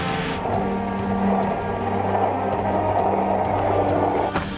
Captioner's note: skateboard rolling